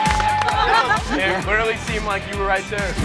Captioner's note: lively music; family laughs